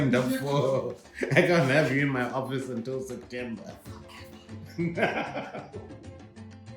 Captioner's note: laughing